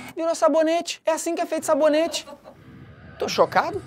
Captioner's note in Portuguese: risadas